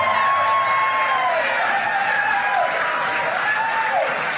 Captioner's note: cheers and applause